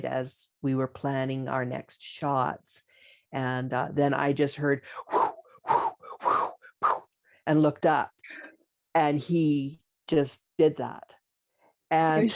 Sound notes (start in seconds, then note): 6.1 whooshing